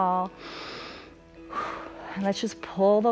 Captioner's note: inhales and exhales